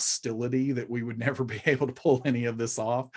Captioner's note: chuckling